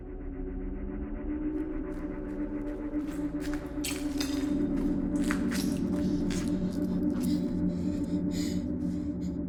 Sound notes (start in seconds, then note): 0.0 eerie music; 3.0 debris rattles; 6.9 Abby pants